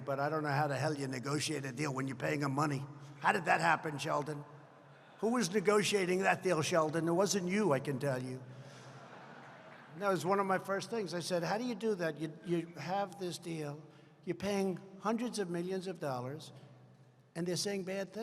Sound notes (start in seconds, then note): 8.8 laughter